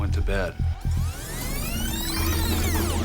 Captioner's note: rewinding noise